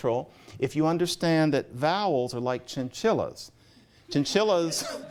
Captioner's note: laughter